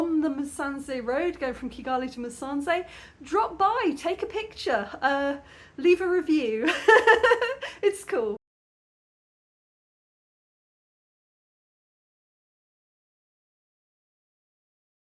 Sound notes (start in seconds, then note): 6.6 laughing